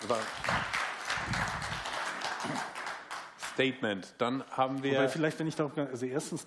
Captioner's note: applause